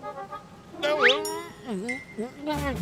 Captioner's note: mutters; straining